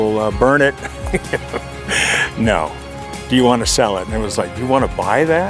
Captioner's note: laughs